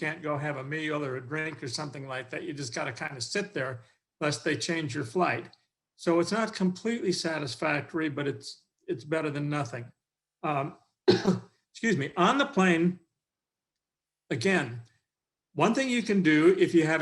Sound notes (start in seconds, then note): 11.0 coughing